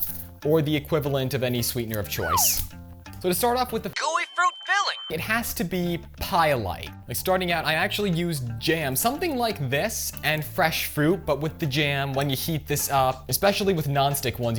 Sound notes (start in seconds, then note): 2.2 downward slide whistle; 3.9 synthesized voice